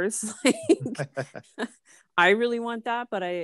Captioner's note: sassy laughs